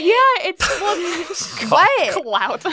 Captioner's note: laughs